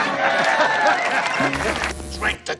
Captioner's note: laughter; crowd cheering